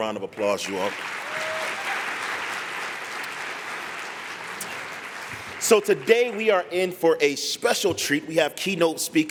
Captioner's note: applause